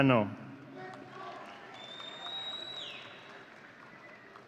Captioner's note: audience cheering